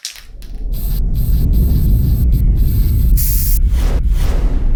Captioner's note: spray can rattling; spray can whooshing